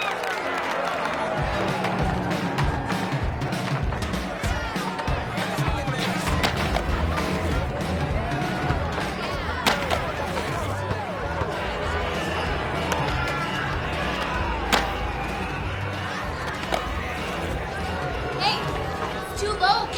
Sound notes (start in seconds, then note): 1.6 upbeat music; 5.6 students chatting indistinctly